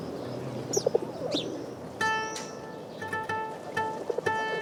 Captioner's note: pigeons noise